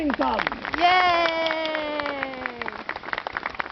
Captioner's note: audience clapping and cheering